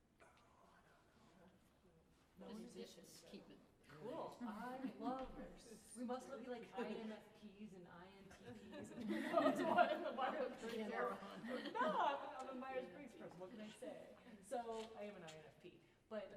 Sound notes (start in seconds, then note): 8.4 laughter